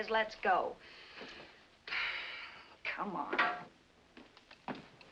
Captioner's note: sighs